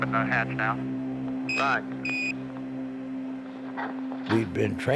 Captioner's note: device beeping